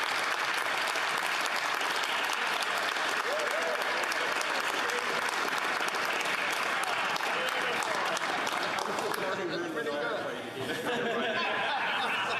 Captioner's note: some Applause